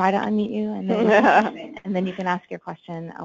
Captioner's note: laughing